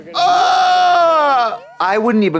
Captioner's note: Trixie shrieks